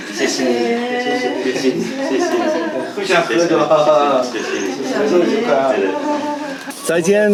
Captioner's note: laughter